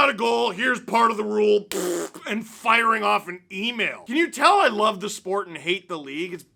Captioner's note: fart noise